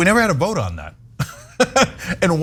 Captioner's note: laugh